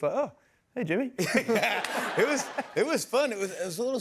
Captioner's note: laughter